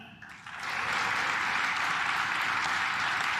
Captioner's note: claps